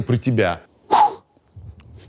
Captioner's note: exhales